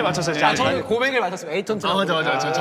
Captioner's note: commotion